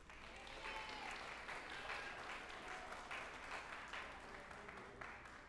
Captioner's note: group applauding and cheering